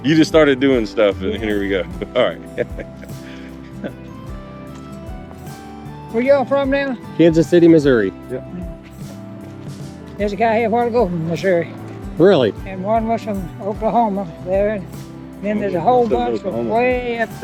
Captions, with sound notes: You just started doing stuff, and here we go. All right. (laughs) Where you all from now? Kansas City, Missouri. Yeah. There's a guy here, a while ago from Missouri. Really? And one was from Oklahoma there, and then there's a whole bunch of way up